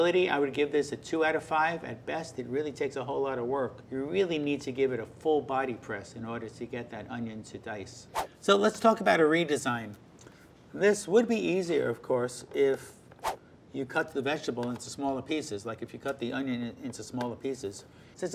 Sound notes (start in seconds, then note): 8.1 whooshing; 13.2 whooshing